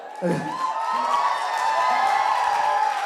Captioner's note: Samuthrakani slow claps